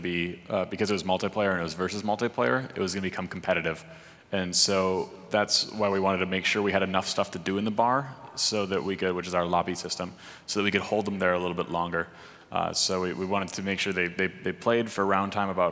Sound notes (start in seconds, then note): none